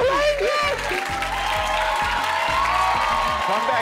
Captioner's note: audience applauding and cheering